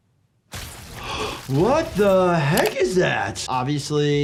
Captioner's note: gasping; plant squishing